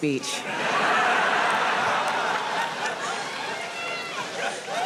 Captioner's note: audience laughing